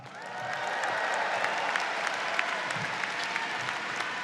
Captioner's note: audience cheers